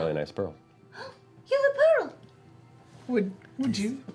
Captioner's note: gasps